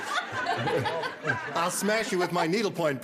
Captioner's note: laughter